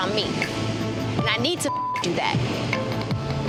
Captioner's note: beep